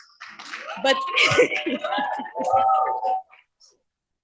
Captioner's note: cheering